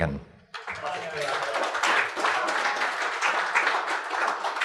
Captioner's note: audience applauds